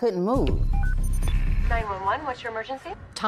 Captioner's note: phone beeps